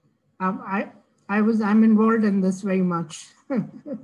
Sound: chuckling

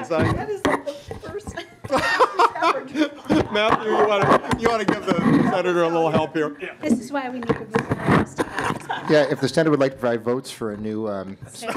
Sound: laughing

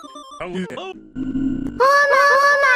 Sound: random sound effects; scrambled sound effects; "OH MY GAH" sound spams

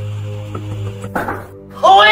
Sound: door opening; knocking on door

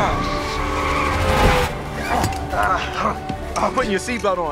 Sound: horns honking

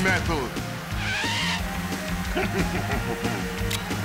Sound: tires screeching; snickering

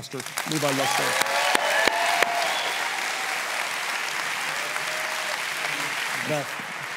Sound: congregation applauds; congregation cheers

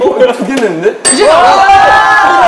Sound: ring

